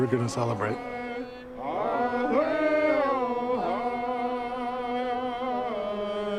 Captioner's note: people chanting in foreign language